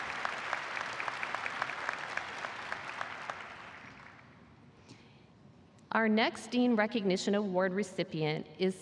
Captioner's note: cheers and applause